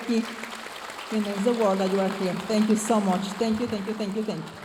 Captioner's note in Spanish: hablando en inglés